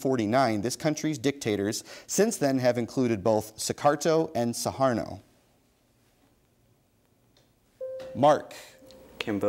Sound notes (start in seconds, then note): 7.8 bell dings